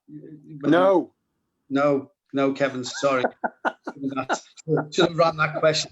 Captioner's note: laughter